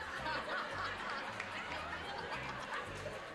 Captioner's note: laughing